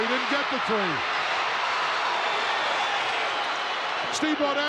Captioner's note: crowd cheering